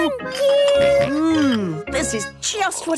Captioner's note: snorts